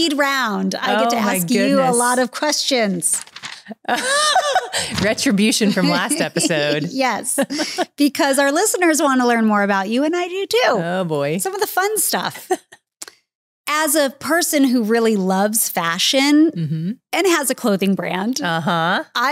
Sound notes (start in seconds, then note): 3.7 laughing; 12.8 chuckles